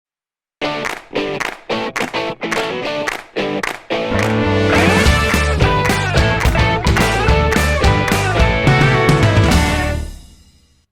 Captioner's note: claps